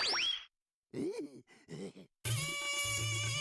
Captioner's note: chuckling